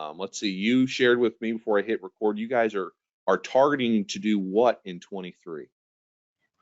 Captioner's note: none